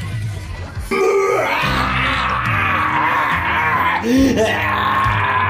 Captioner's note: evil laughter